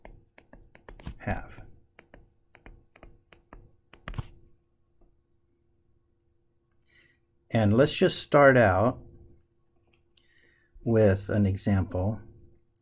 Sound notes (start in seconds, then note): 2.5 tapping Sounds